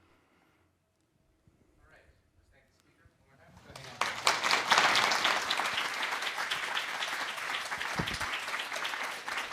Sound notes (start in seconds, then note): 3.5 applause